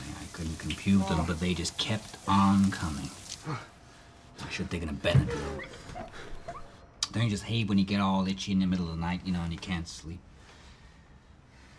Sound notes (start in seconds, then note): 3.9 shower running